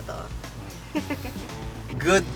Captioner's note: giggles